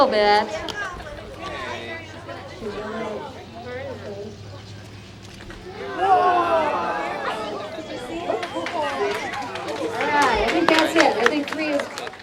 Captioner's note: clapping